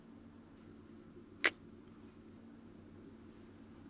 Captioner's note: kiss